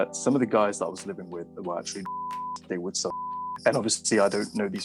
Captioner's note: beep